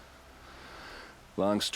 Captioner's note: sigh